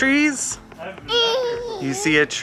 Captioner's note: babbles